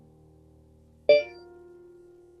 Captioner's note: iOS ALERT TONE